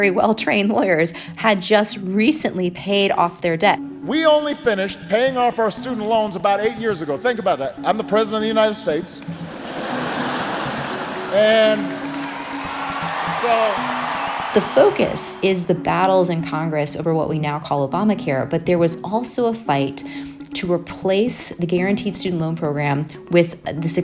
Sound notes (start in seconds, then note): 4.0 soundbite of archived recording; 9.3 laughter; 13.1 applause